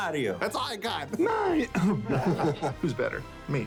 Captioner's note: imitating Mario; clears throat